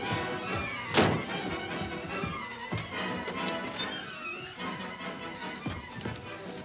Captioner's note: door thuds; dramatic music